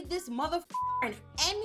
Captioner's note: beep